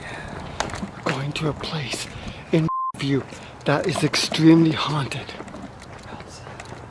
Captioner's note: beep